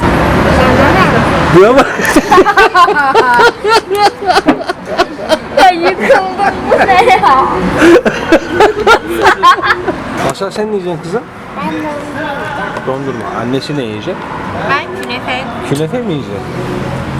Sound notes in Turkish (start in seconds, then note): 1.7 Kahkaha sesleri